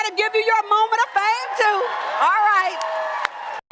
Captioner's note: applause